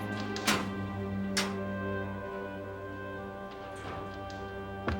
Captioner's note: locker door clanks